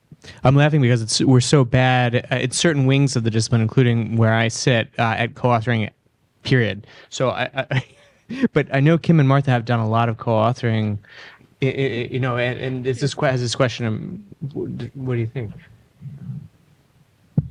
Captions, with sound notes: um I'm laughing because it's we're so bad at certain wings of the discipline including where I sit at co-authoring period so I I but I know Kim and Martha have done a lot of co-authoring you know and this is this question what do you think? [microphone slides]